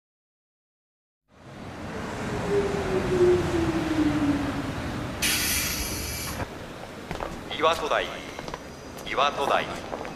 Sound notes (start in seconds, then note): 3.7 the sound of a monorail arriving